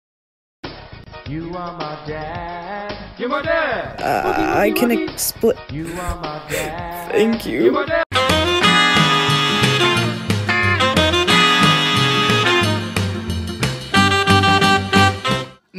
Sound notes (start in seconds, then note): 0.3 ringtone; 5.8 crying